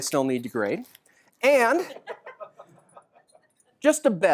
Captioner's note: laughter